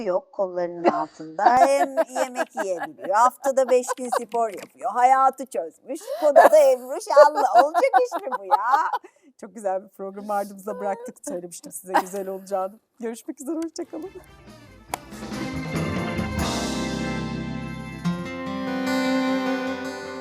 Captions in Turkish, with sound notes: yok kollarının altında [kahkaha] hem yemek yiyebiliyor. Haftada 5 gün spor yapıyor. Hayatı çözmüş. Kodada Emru şanlı olacak [kahkaha] iş mi bu ya? Çok güzel bir programı ardımızda bıraktık. Söylemiştim size güzel olacağını. Görüşmek üzere. Hoşça kalın.